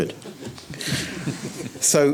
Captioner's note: audience giggles